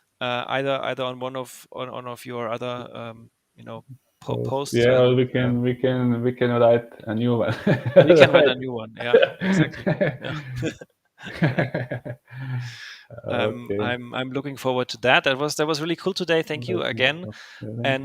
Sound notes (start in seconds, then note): 11.2 laughing